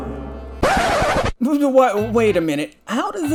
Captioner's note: sound of a record abrubtly stopping